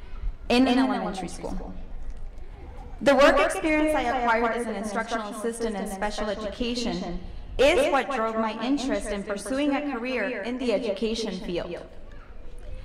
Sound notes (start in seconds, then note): none